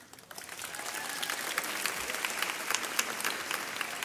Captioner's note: audience applauds